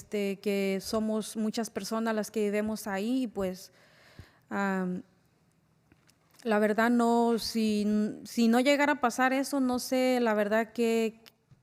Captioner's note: spanish